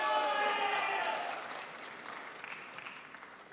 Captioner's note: crowd applauds